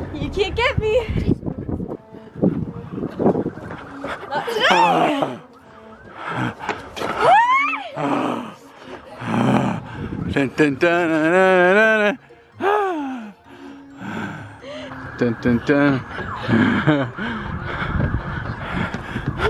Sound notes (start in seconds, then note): 4.6 screaming; 7.4 squealing; 7.8 groaning; 16.4 laughing